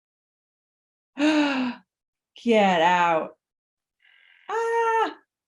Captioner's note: gasp